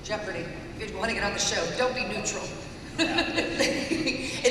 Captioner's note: laughs